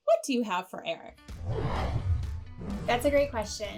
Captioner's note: logo whooshing